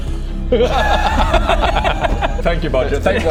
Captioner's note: out-of-context laughter